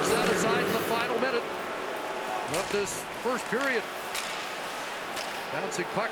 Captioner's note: crowd noise